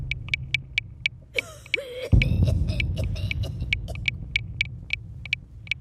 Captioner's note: coughing